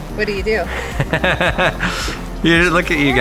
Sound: laughs

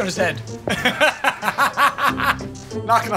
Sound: laughter

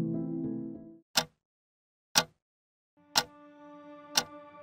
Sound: clock ticking; gentle music

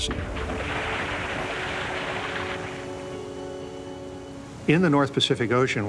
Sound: water crashing against the boat

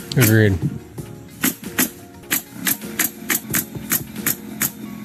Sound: nail gun pops

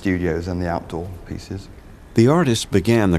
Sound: outdoor sounds

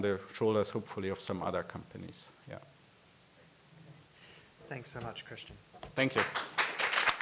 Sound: applause

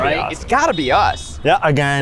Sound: car honks

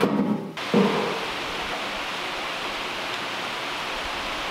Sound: rain pounding

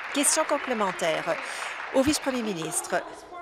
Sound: applause

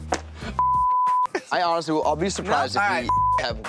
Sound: beep

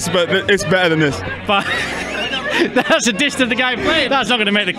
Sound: laughs

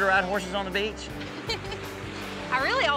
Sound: giggling

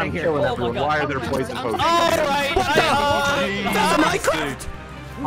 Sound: voice overlay

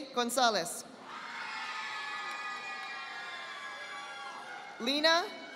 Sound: audience applauding

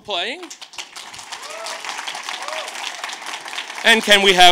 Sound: audience claps

